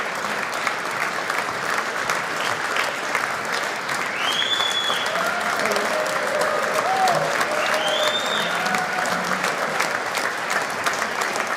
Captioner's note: applause